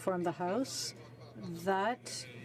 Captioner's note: speaking French